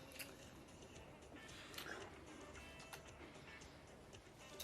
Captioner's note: lips smacking